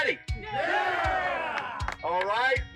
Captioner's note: cheering